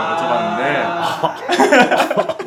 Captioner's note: laughing